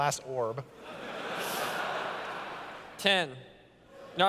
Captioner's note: laughter